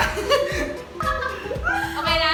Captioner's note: laughing